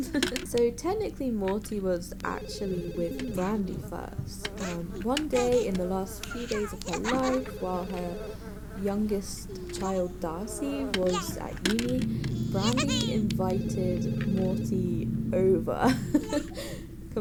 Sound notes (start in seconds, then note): 14.8 laughs